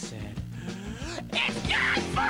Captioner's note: inhale